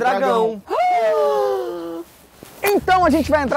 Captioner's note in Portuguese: fazem som de surpresa